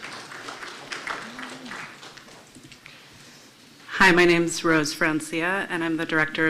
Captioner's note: applause